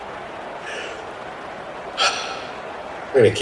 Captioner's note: sigh